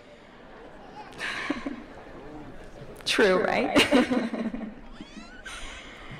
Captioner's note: laughs